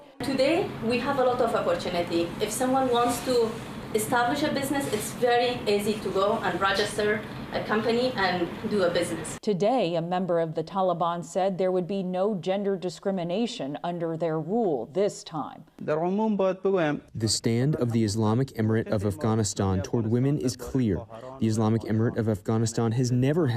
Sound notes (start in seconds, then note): 17.2 through translator